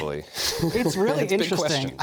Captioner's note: laughter